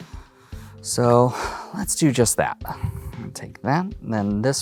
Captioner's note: sighs